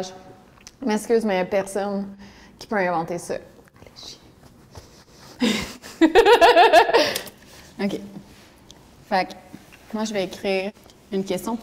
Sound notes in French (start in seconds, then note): 5.5 rire